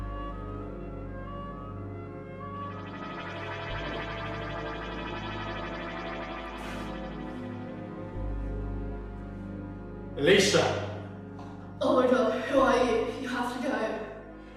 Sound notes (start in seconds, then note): 2.2 pyschic entrance and teleportation sounds